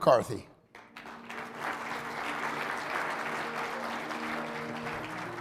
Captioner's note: audience applauding